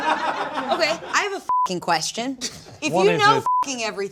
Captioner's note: beep